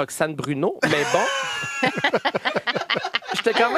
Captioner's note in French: rires